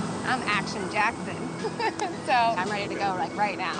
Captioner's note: laughs